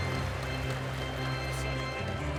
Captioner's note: audience applauding